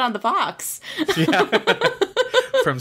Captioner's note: laughs